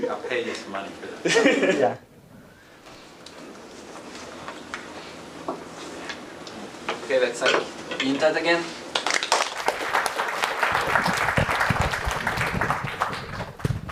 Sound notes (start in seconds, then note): 11.0 applause